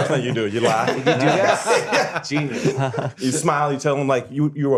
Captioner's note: laughter